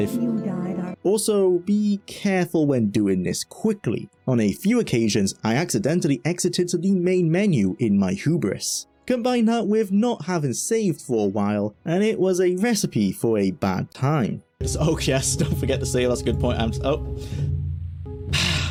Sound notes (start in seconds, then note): 18.3 sigh